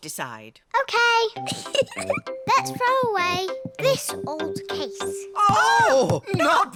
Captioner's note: giggles